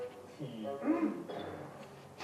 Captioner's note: ahem!